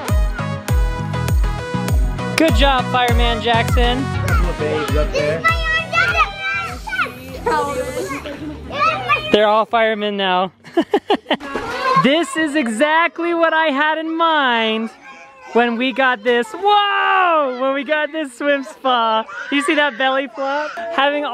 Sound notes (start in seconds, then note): 1.3 dance music; 6.3 shouting; 10.6 laughs